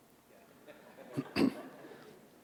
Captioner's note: audience laughter